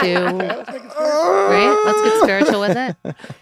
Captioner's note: Glenn wailing